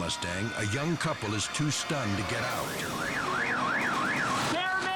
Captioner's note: car alarm blaring